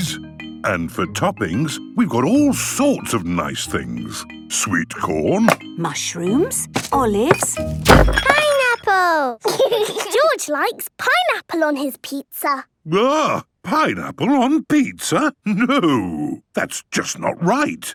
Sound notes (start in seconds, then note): 6.7 bangs; 9.5 laughs